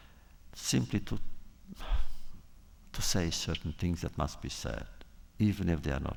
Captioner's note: sighs